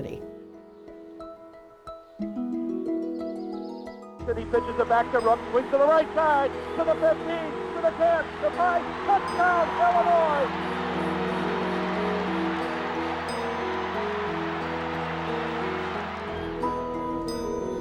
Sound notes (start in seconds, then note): 0.3 music and birds chirping; 4.1 radio call; 10.5 crowd cheers, music